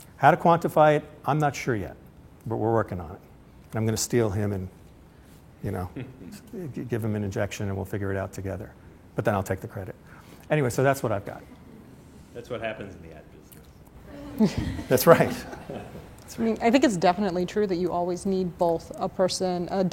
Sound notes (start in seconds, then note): 14.1 laughter